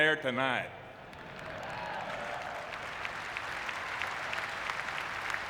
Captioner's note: audience clapping